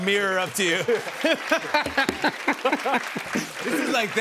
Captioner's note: laughter